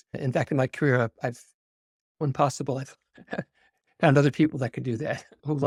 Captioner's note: laughs